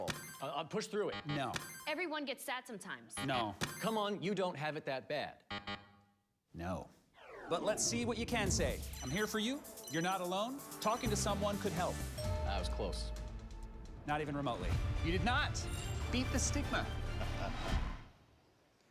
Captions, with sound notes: (buzzer dings) - Push through it. (buzzer buzzes) - No. (buzzer dings) - Everyone gets sad sometimes. (buzzer buzzes) - No. (buzzer dings) Come on, you don't have it that bad. (buzzer buzzes) - No. But let's see what you can say. I'm here for you, you're not alone, talking to someone could help. (buzzer dings) - I was close. - Not even remotely. You did not, beat the stigma.